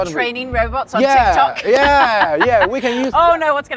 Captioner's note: laughs